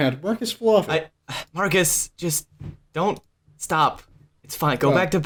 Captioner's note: sigh